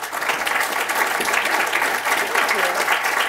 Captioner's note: applause